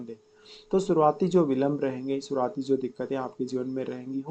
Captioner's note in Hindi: नाक से की जाने वाली आवाज़